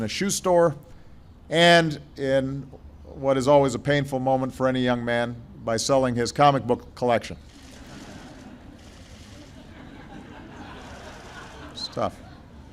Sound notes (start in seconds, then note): 9.2 laughter